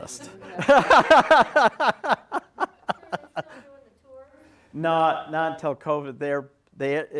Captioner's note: heavy laugh